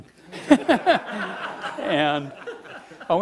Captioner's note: laughing